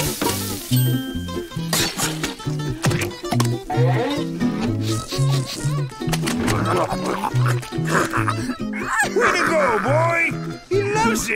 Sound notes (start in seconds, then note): 3.9 sniffing; 7.8 laughing